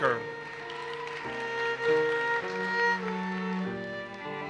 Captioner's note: audience applauses